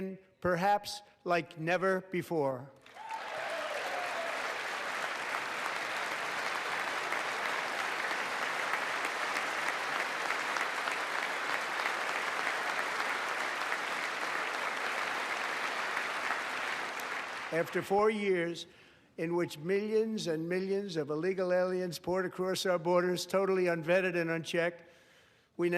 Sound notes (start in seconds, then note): 9.3 applause